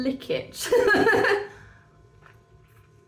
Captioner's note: laughing